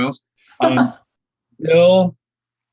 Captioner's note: laughing